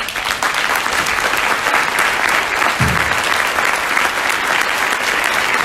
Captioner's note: audience applauds loudly